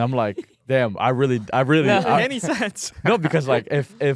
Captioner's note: laughs